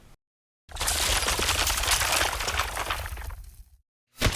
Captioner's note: crackles